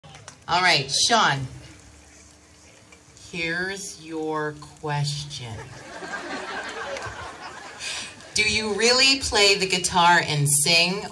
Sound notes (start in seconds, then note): 5.5 crowd chortles